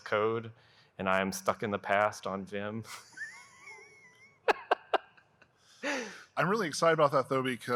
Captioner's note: giggling